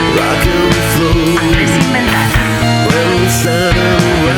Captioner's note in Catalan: Anglés inventat